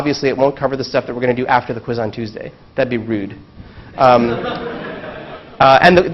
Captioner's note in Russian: Смеется